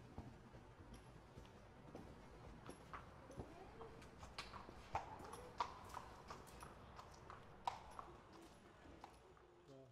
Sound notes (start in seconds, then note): 2.9 horse hooves clomping